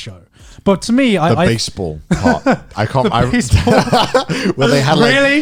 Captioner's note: laughs